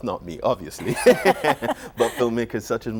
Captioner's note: laughter